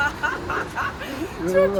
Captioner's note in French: Rires